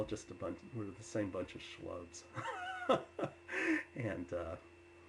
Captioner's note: laughs